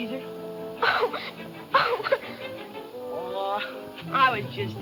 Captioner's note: crying